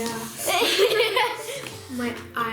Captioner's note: laughter